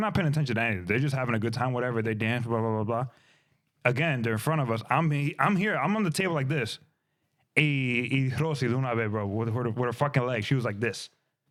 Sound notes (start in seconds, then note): 7.8 speaking In Spanish